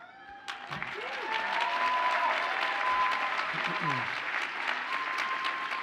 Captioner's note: audience cheers and applauds